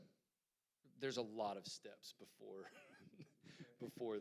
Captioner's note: chuckles